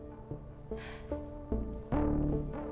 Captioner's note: sighs